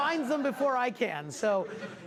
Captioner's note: class laugh